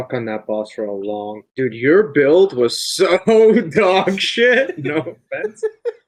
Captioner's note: laughs